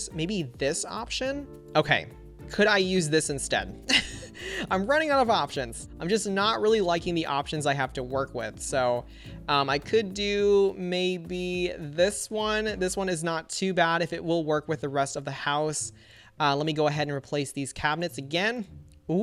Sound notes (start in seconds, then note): 3.8 chuckles